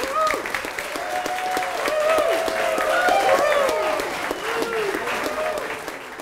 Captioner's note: applause